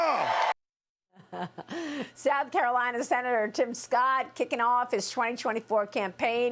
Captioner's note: cheers and applause